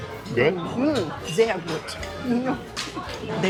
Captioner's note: in German